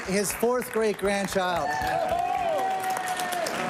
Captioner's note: applause